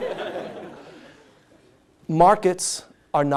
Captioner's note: laughter